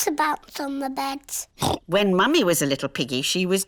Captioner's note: oinks